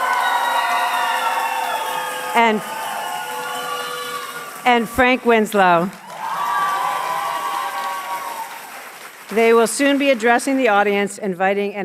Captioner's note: cheers and applause